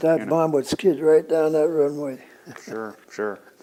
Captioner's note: laughs